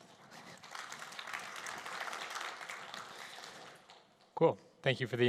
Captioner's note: applause